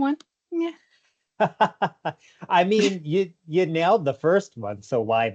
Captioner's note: chuckles